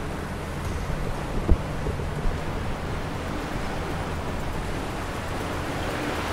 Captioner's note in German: Regen und Wellengeräusche